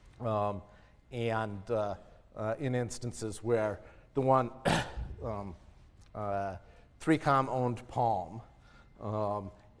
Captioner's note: cough